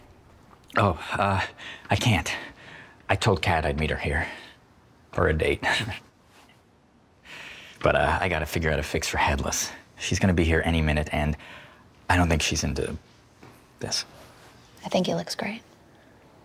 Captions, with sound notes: Oh, uh - I can't. I told Kat I'd meet her here...for a date. *chuckle* But, uh, I got to figure out a fix for Headless. She's going to be here any minute, and I don't think she's into...this. I think he looks great.